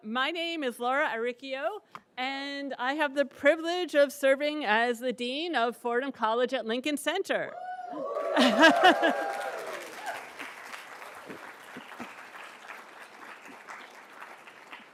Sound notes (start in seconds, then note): 7.6 audience cheers and claps; 8.4 chuckles